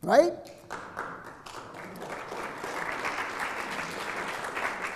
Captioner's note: audience clapping